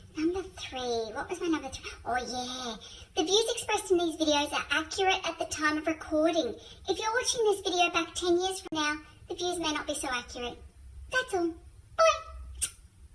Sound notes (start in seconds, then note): 12.5 smooch